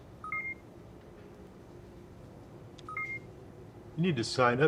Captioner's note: computer beeping